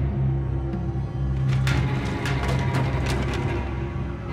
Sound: clattering

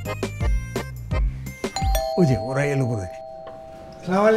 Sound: bell Rings

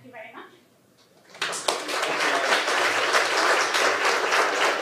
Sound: audience applauding

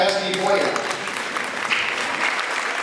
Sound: ^applause^

